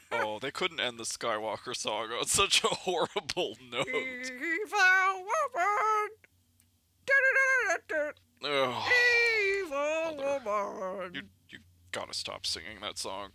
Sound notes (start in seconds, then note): 4.0 sings; 8.5 sighs